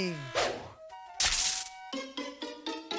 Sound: electricity crackling

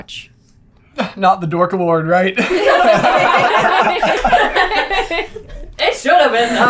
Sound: laughter

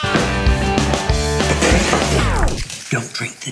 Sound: spits drink; record stops

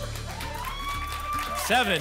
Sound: applause and cheering

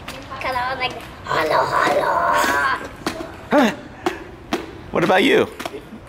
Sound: grunting

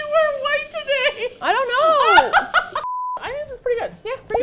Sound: laughing; laughs hysterically

